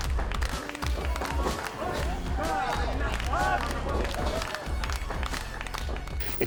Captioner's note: crowd clapping